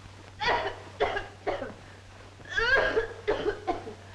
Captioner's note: Minerva coughing